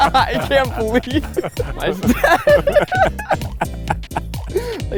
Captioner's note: laughing